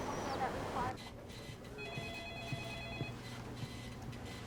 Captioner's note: telephone rings